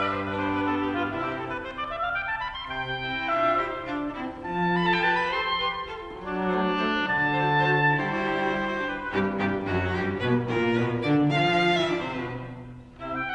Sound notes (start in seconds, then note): none